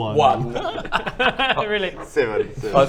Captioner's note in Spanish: ríe